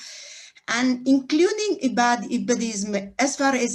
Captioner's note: non english speech